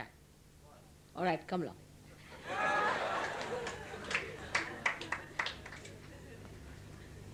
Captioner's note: laughter